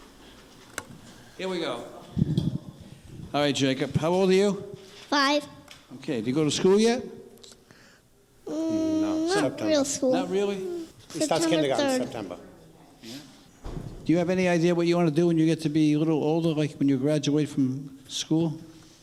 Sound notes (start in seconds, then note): 2.2 microphone rattling; 8.5 humming